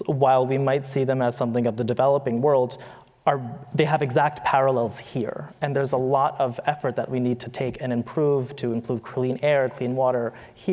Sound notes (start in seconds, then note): none